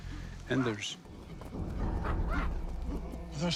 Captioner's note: clamoring